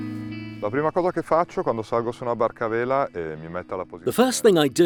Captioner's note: speaking in foreign language